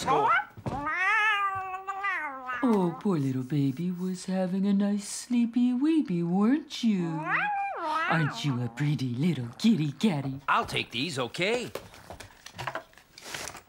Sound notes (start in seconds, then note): 2.7 baby Talk